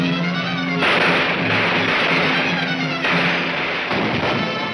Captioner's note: gunshots banging